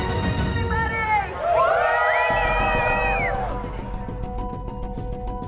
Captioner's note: group cheering and whistling